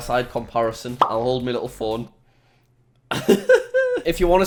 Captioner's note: laughs